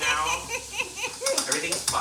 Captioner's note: laughs